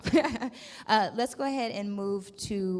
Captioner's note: laughs